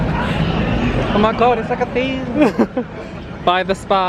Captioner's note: laughs